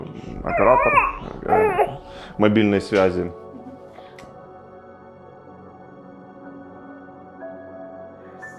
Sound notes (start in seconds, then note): 0.4 baby fussing